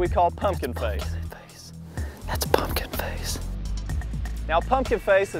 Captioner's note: whispering